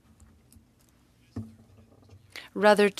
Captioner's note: speaking French